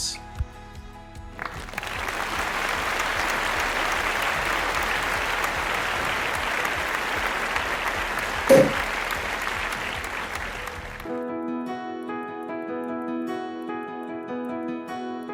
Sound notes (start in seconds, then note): 1.3 audience claps; 8.3 champagne bottle pops; 11.0 cheerful music